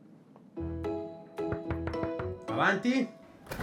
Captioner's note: there's a knock on the door